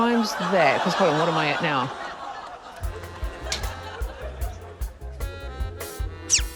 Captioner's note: clamouring, laughter